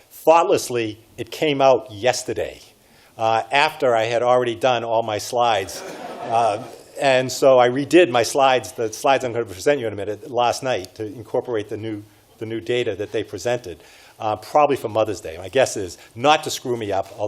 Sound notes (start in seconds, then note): 5.6 audience laughs